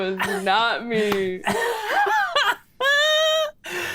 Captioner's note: laughs